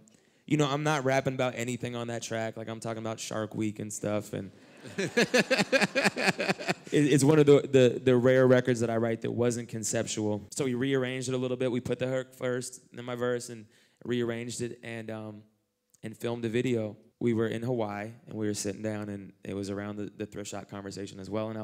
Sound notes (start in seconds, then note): 4.7 laughter